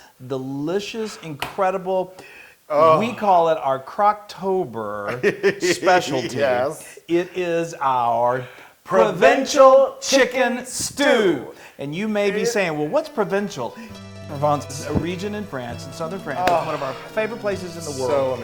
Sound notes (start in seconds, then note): 5.0 laugh